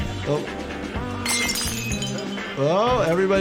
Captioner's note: glass clatters